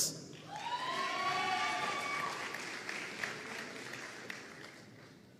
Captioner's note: audience cheering and applauding